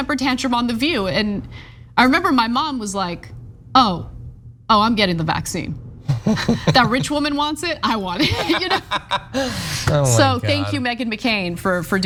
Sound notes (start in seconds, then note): 8.1 laugh